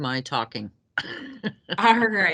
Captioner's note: laughing